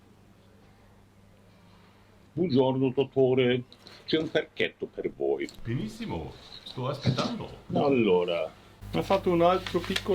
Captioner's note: Italian